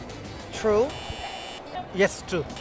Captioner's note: buzzer